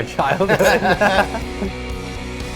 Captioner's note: laughing; upbeat music